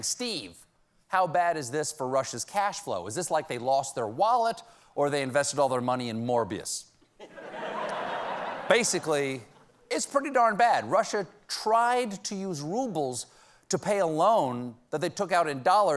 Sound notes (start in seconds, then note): 7.1 laughter